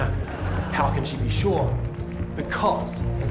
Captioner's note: audience laughter